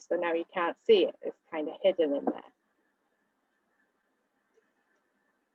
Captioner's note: silence